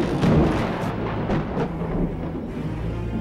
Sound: thunder and lightning

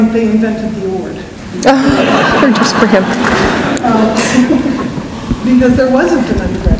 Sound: laughter

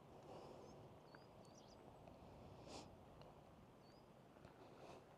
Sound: birds chirping

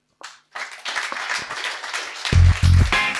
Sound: applause

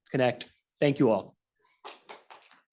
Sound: applause

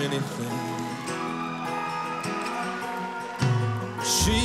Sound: cheers and applause

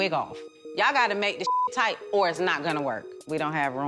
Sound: beep

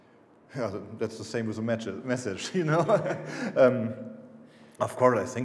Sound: laughing

